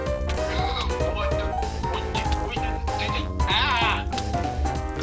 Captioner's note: various sounds of panic